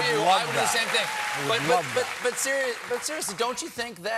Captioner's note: cheers and applause